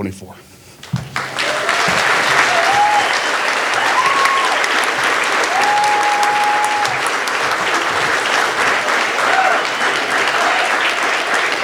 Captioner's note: audience applauding